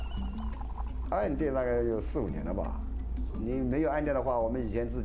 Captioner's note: speaking Chinese